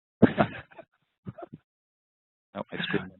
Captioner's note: laughing